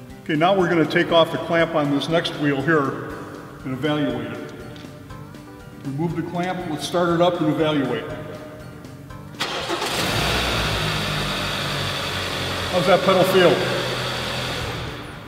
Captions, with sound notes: Ok now we're going to take off the clamp on this next wheel here and evaluate it. Remove the clamp, let's start it up and evaluate. (Engine starting) How's that pedal feel?